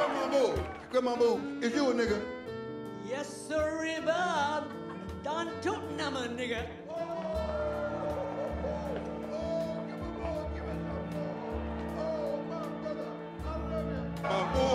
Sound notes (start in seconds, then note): 0.0 audience cheers; 8.9 audience cheering in background; 9.7 soft music plays